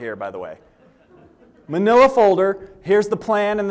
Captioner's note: laughter